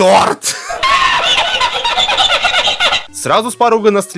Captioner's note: laughter